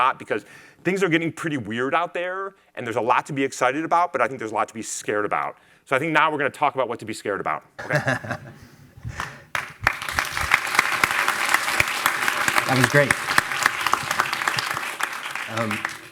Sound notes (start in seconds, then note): 7.8 laughing; 9.0 attendees clapping